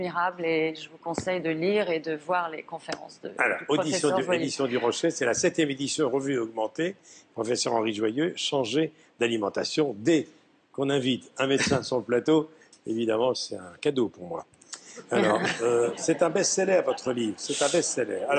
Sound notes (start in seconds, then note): 15.0 laugh